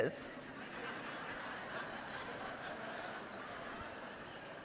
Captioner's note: audience laughing